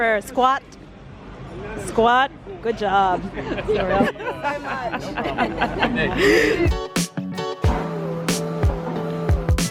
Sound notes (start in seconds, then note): 3.5 laughing; 6.6 upbeat music